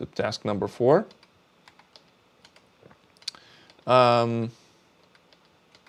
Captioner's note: keyboard clicking